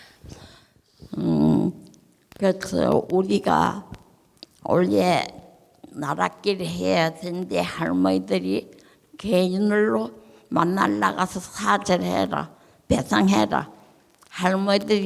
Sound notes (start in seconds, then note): 1.7 speaking in foreign language